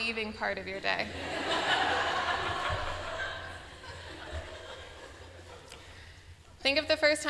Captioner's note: laughter